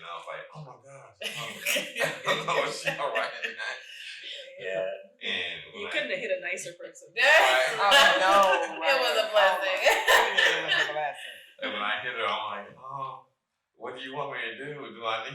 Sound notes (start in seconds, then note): 0.0 chuckles; 1.2 all laughing; 7.2 laughing